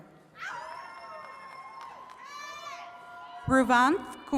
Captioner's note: attendees cheering